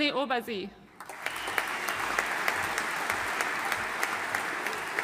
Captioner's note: audience applauding